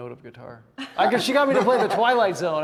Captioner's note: all laughing